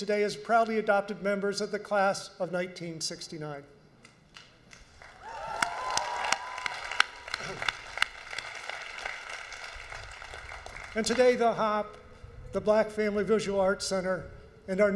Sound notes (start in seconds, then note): 4.9 audience applauds; 5.0 audience cheers